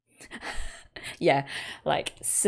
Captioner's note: laughs